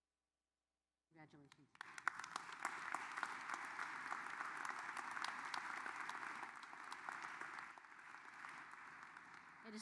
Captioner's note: applause